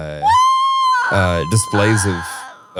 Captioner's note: squealing